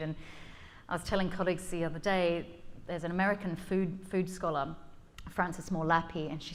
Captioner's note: none